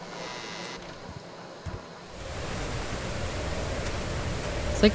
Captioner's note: thunderstorm & wind very loud and powerful